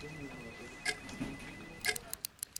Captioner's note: clock ticks; pen clicks; fingers tap